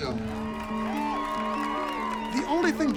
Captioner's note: cheering